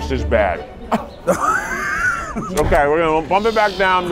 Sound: laughing

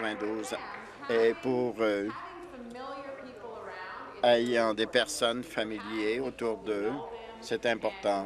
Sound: applause

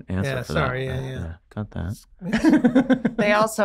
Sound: Rob laughing

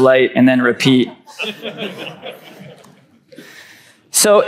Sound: crowd chuckles

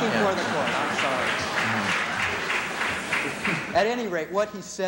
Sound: applause

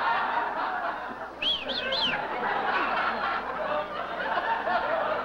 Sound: whistling

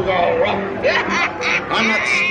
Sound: laughter

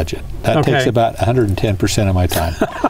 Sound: laughter

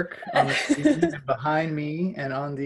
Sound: laughs

